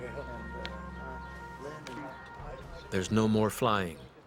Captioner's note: voiceover